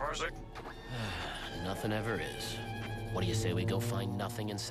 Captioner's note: sighs